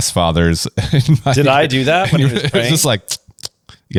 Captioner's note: laughs